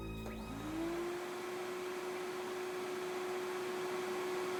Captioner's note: suspenseful orchestral music continues; vacuum whirring